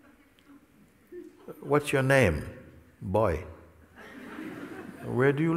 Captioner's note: Lachen